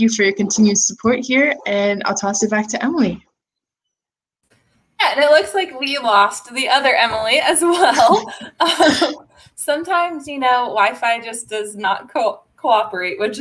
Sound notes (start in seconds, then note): 7.7 laughter